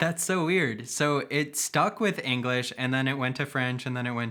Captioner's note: speaking in Dutch